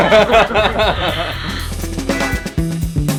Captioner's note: laughter; jazzy music